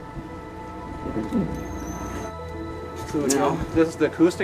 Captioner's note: turtle gulping